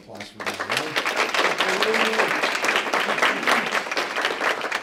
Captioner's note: applause